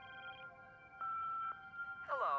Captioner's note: answering machine beeps